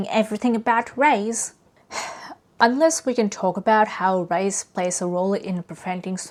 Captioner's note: sighs